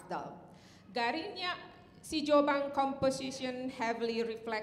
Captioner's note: speaking in Indonesian